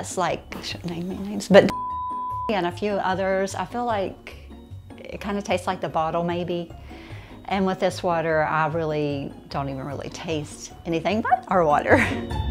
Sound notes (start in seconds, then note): 1.6 beep